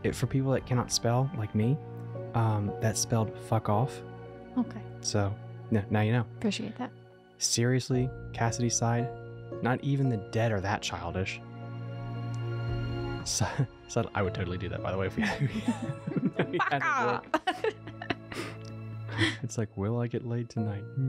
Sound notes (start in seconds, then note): 15.1 both laugh